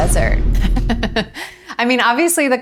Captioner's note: laugh